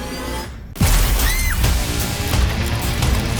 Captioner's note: screaming; rock music plays